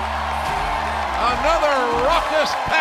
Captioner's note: cheers and applause